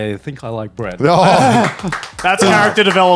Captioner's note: hands clapping